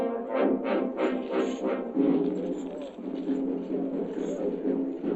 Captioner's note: chains rattling; indistinct chattering